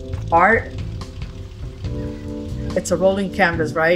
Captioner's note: engine rumbling